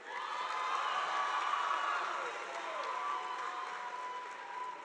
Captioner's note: audience applauding